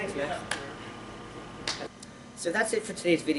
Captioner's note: claps